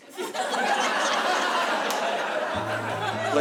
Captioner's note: laughter